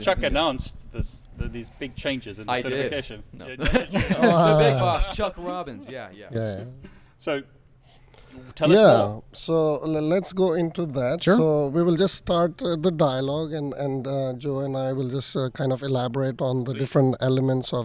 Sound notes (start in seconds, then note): 3.6 laughter drowns out speech